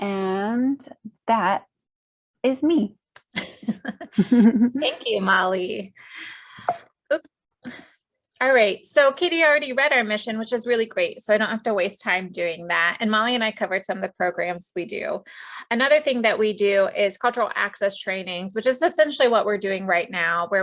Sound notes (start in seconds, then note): 3.3 chuckles; 6.5 phone chimes